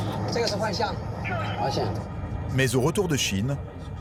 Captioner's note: conductor speaking foreign language